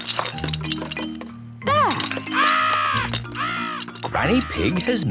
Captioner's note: seagulls cries